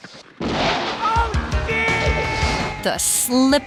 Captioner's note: crashing